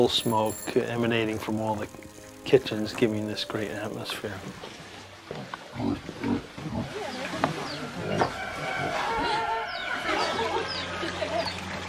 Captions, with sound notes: and coal smoke emanating from all the kitchens giving this great atmosphere. (pigs honking) (villagers chattering)